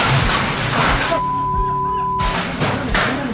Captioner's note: shouts, beep